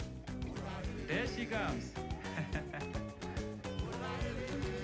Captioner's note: Patrick laughs; cheerful music